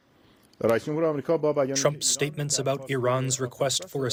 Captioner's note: through translator